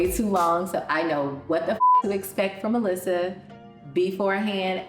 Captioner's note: beep